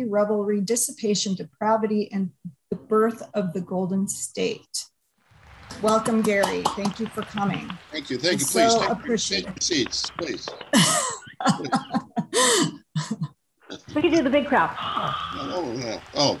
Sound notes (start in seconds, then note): 5.4 applause; 8.1 laughter; 13.9 applause